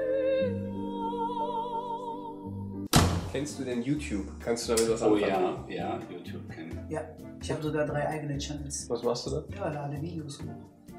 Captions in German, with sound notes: *lauter Knall* Kennst du YouTube? Kannst du damit was anfangen? - Oh, ja. Ja. Ich habe sogar drei eigene Channels. Was machst du da? - Ja, lade Videos hoch.